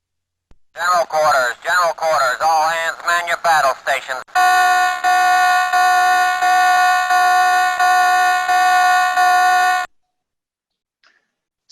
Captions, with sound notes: - General quarters, general quarters, all hands man your battle stations. (alarm beeps intermittently)